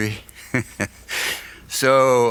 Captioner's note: laughs